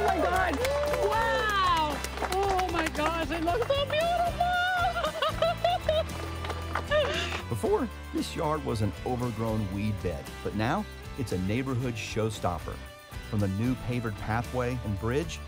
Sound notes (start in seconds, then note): 0.0 crew applauding